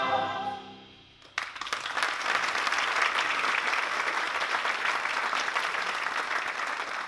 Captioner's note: applause